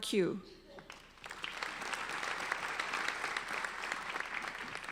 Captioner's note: applauding